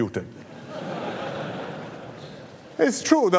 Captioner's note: laughter